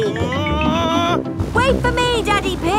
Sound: screaming

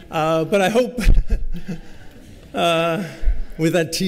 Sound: laughter

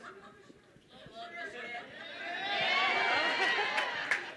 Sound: cheering

